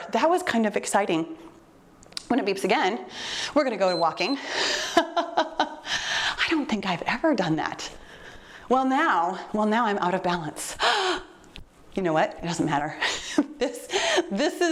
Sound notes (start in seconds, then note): 3.7 timer beeps; 5.4 laughing